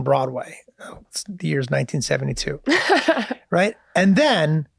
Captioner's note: laughs